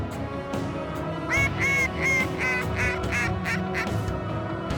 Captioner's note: duck calls